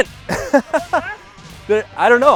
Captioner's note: laughs